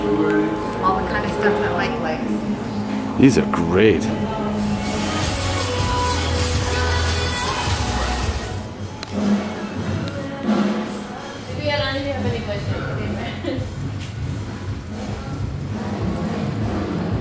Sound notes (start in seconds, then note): 5.1 pop music; 12.0 artist speaking Spanish